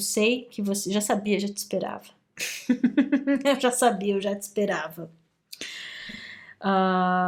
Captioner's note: laughs